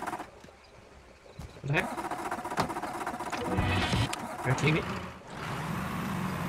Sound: engine

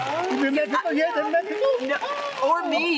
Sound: all chattering

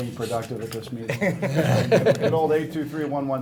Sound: laughing

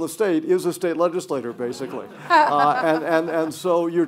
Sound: audience laughter

